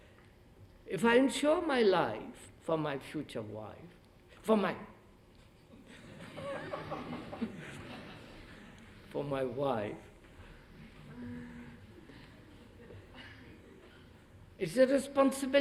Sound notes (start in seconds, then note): 5.7 laughter